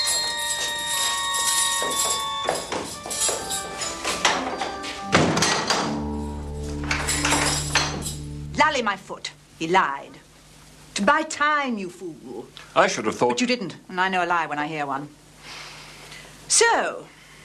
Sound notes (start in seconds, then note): 4.9 door locks